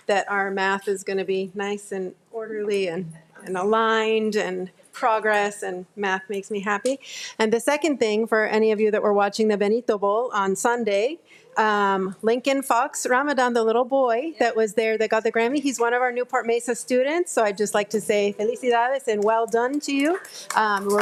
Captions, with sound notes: that our math is gonna be nice and orderly and aligned and progress and math makes me happy. And the second thing for any of you that were watching the Benito Bowl on Sunday, Lincoln Fox Ramadan, the little boy that was there that got the Grammy, he's one of our Newport-Mesa students. So I'd just like to say (speaks in foreign language) and well done to you.